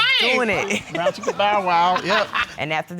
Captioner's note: laughs